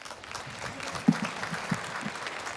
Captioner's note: applause